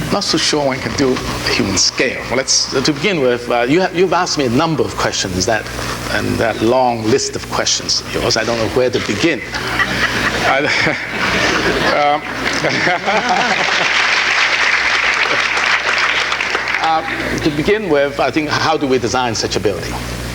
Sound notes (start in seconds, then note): 9.9 audience laughing; 13.4 audience applauding